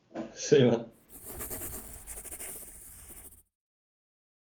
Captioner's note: scribbling